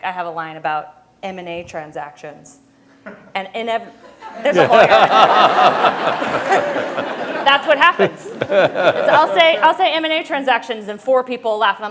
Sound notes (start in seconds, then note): 4.0 laughter